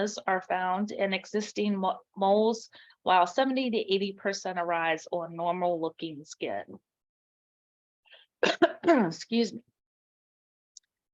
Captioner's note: coughs